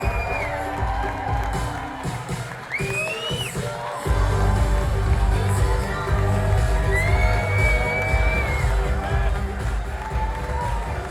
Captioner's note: audience clapping and cheering